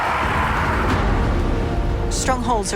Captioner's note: loud roaring